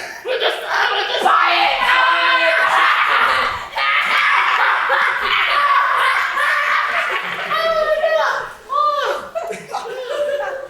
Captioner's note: laugh even louder